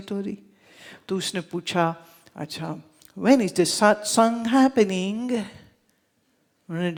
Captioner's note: in British accent